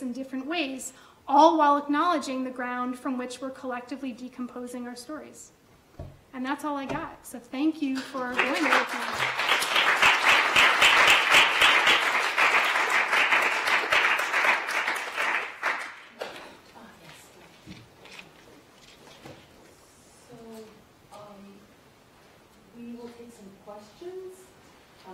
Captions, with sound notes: in different ways, all while acknowledging the ground from which we're collectively decomposing our stories. And that's all I got. So thank you for going there with me. (audience applause) - So, we will take some questions, lots of questions,